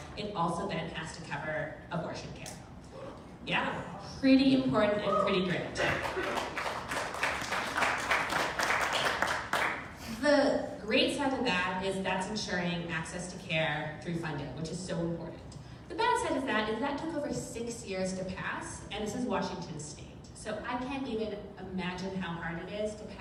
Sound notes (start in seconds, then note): 5.0 member of crow cheers; 5.8 crowd claps